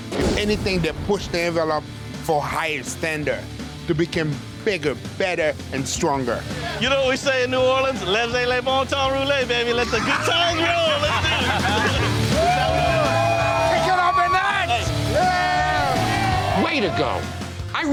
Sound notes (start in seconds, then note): 9.8 laughing; 12.2 crowd cheering